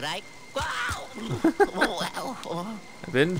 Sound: laughter; voiceover

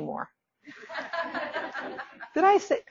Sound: audience laughing

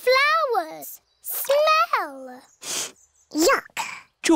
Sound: sniffs

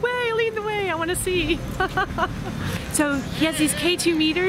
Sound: laughs

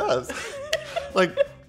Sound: both laughing

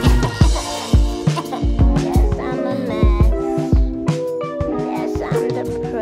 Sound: crying

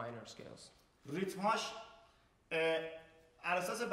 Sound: speaking in farsi

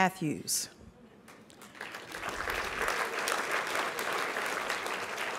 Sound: applause

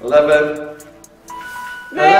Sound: alarm noise

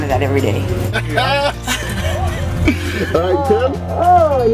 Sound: laughs

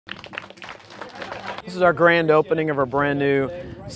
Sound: applause

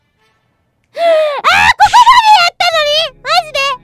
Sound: inhales

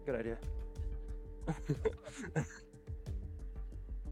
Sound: laughter

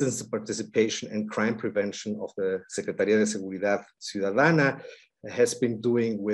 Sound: speaking in Spanish

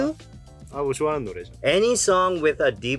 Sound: speaking in Korean

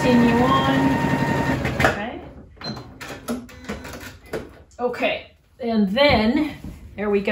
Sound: sewing machine noises

